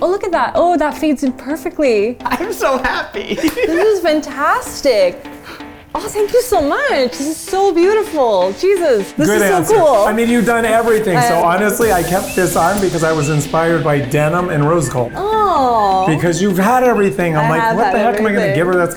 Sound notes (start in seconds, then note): 2.2 laughs